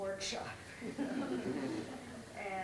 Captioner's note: laughter